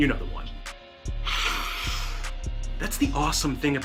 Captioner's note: sniff